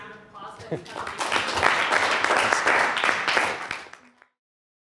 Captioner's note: students applauding